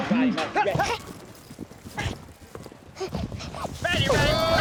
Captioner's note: panting